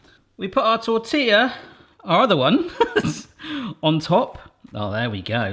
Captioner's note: laughs